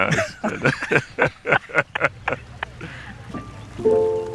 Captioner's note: laughter